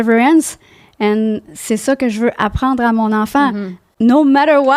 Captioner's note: in french